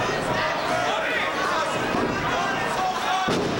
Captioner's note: crowd chattering; bodies slamming